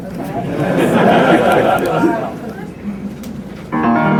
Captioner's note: crowd laughing